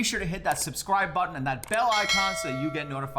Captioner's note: bell rings